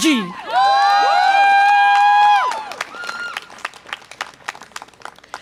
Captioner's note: audience applause and cheer